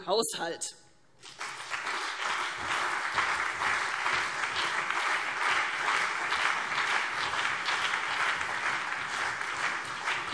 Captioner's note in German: Beifall CDU und BÜNDNIS 90/DIE GRÜNEN